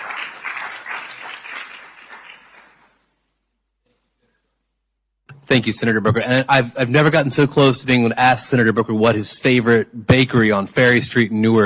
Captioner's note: applause